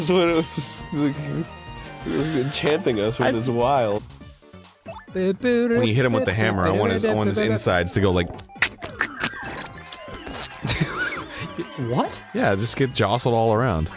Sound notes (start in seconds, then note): 9.7 mimics gory sounds